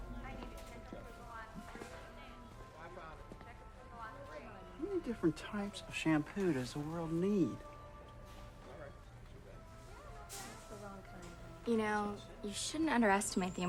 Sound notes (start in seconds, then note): 0.6 store worker announcing